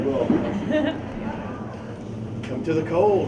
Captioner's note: Brie laughs